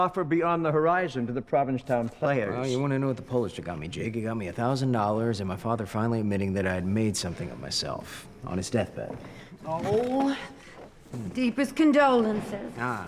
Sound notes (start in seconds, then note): none